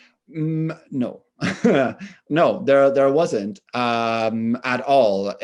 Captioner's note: chuckles